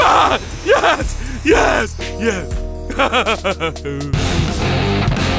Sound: maniacal laughter; loud rock music

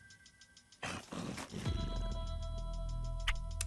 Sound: snoring

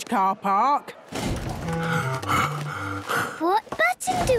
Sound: Daddy Pig panting

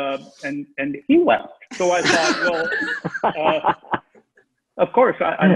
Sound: everyone laughing

